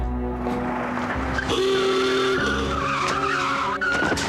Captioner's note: claxon honks